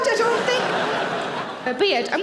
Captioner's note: audience laughing